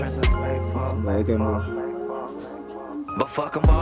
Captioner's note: Vietnamese